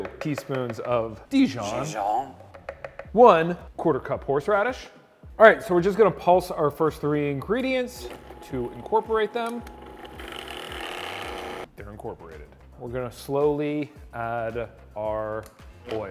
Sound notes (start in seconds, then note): 0.0 taps utensil; 9.7 blender rattles